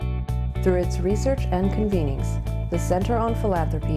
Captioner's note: voiceover